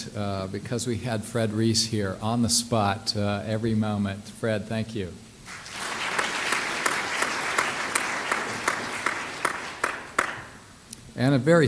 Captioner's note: clapping